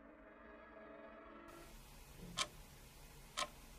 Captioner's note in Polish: dźwieki zegara